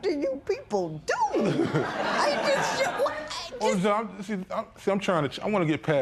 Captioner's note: laughter